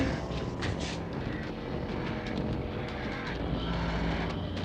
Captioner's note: groaning